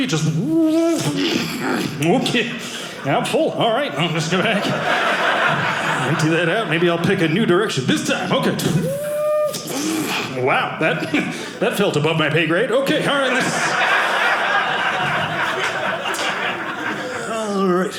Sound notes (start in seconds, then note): 3.7 audience laughing; 13.1 audience laughing